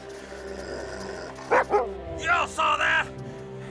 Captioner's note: Buck growling; barks